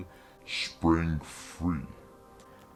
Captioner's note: deep voice, slowed down